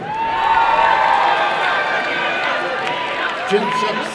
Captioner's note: applause and cheering